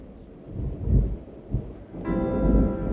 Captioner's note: wind whips